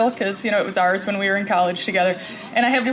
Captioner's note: none